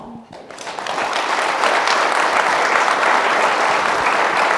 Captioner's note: audience applauding